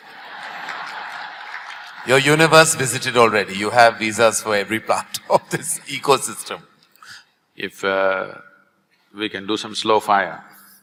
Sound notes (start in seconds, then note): 4.8 laughs